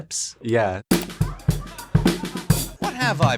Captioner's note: crowd laughing